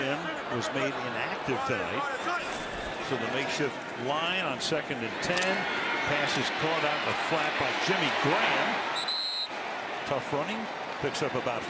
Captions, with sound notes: Garry Gilliam was made inactive tonight. So the makeshift line on second and 10. The pass is caught out in the flat by Jimmy Graham. [whistle blowing] Tough running.